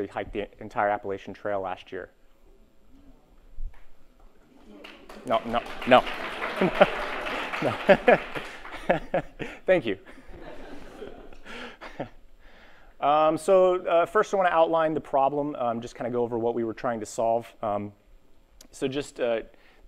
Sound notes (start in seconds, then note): 4.7 applause; 6.1 laughs; 10.0 laughter